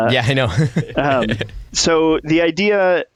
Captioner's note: laughter